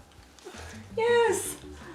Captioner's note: chuckles